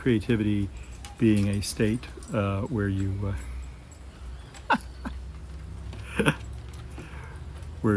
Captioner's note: laughs